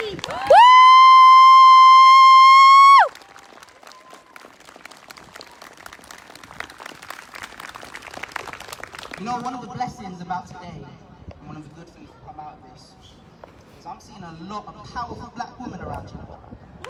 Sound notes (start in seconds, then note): 0.2 whooping; 3.1 applause